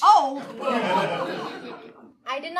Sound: audience laughing

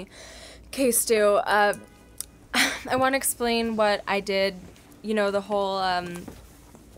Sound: sigh

